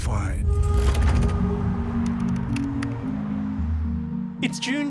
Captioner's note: dramatic music; letters clacking